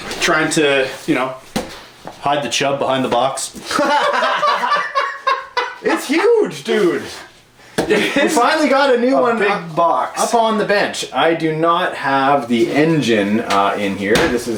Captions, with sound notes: - Trying to, you know, hide the chub behind the box. (laughs) - It's huge dude. We finally got a new one - A big box. - Up on the bench. I do not have the engine in here.